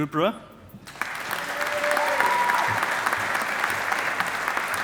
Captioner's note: audience applauding